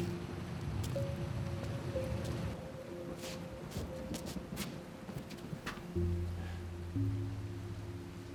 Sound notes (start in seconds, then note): 2.6 pensive music; 2.6 rain patters